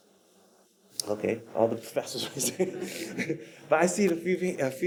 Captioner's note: laughs